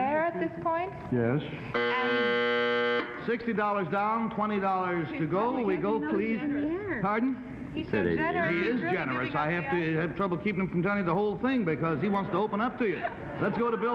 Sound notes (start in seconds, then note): 1.8 buzzing; 4.8 panelists murmuring